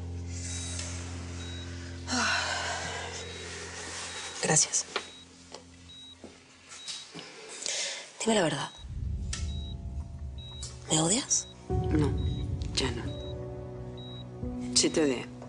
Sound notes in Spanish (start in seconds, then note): 2.0 Suspiros